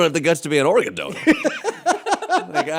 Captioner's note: laughter